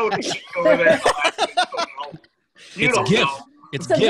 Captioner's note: laughing drowns out speaker